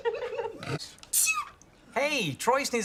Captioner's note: laughter; sneezes adorably